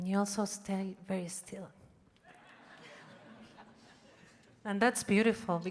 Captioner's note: audience laughing